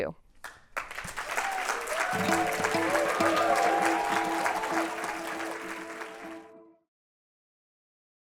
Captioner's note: applause and cheering